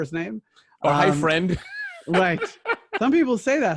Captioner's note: laughing